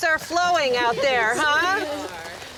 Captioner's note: gentle laughter